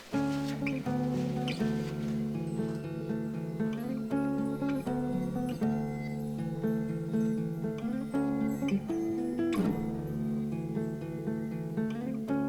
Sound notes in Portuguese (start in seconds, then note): 4.2 Tilintar suave